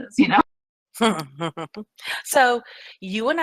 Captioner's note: laughs